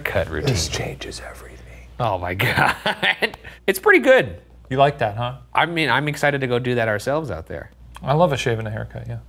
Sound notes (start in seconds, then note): 2.7 laughs